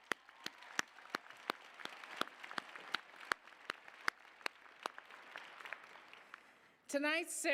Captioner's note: applause